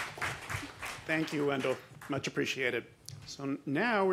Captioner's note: applause